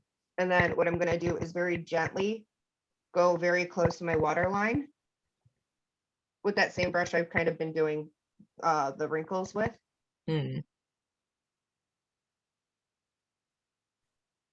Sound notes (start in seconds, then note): none